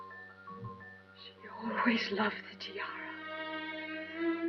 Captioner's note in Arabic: التعليق الصوتي